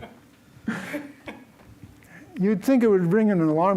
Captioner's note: laughter